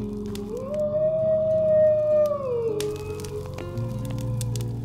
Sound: animal howling

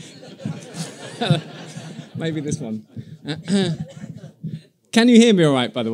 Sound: laughter as microphone starts to fall down and he adjusts it

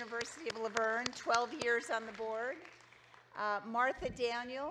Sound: audience clapping cheering

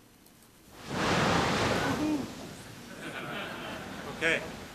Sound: wind

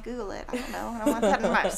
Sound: laughing

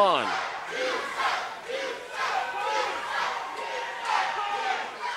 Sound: crowd chanting

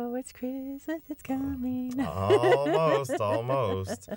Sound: laughter

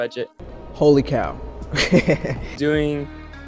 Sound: laughter

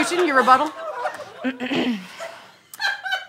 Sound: clears throat

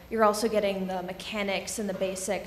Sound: none

